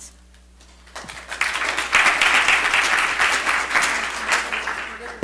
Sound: audience applauds

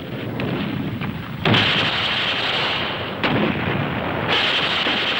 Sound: explosions booming

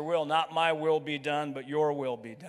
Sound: none

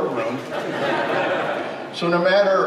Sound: crowd laughs

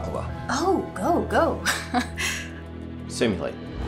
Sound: chuckles

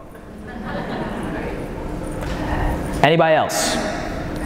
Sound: audience laughing

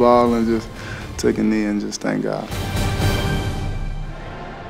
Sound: voiceover

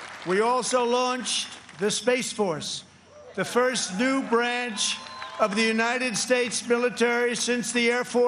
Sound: applause

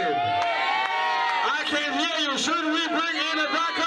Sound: cheering

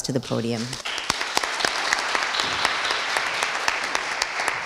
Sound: audience applauding

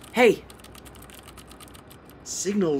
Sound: clicking of keys

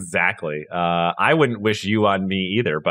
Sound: laugh

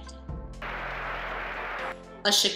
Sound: loud applause

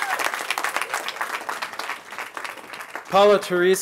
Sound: cheering

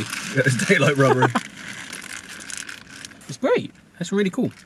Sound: both laugh

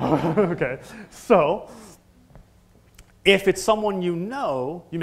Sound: laugh

